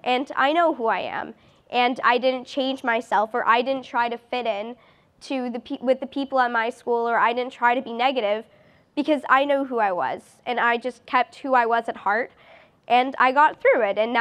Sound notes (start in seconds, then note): none